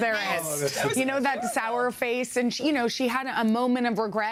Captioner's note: laughter